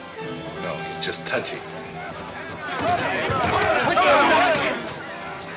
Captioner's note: men yelling simultaneously